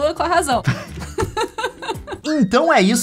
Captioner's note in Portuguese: risadas